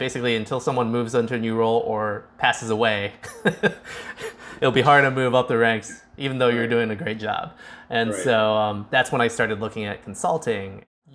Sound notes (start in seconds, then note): 3.3 chuckles